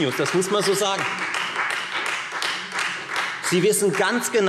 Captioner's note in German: Beifall Freie Demokraten